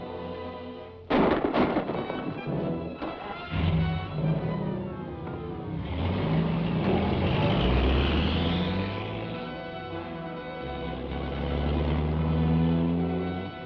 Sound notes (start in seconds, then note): 1.1 gunshots; 6.5 engine rumbles